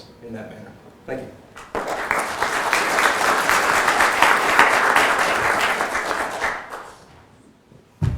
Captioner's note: applause